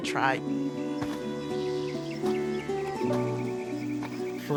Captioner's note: birds chirping; gentle music